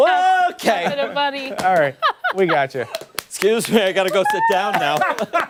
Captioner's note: laughter